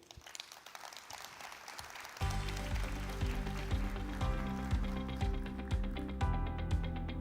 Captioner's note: audience applause; uplifting music